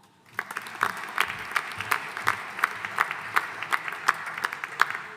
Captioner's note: audience applauding